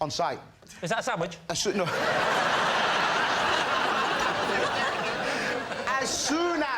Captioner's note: laughter